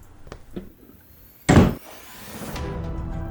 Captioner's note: door shuts